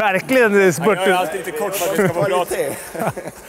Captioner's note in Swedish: skratt